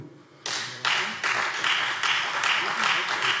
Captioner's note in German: Beifall Freie Demokraten